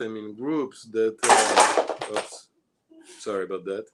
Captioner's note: loud clattering